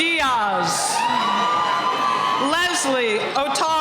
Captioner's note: cheering